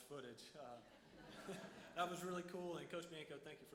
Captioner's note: audience laughs